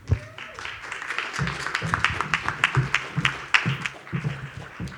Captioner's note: audience applauds